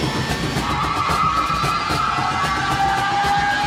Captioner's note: tyres squeal